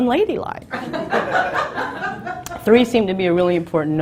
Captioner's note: laughs